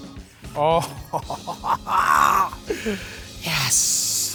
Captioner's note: chuckles in excitement